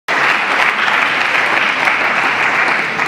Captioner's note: applause